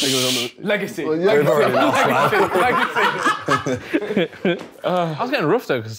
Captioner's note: group laughing